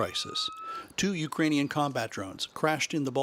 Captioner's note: sound of siren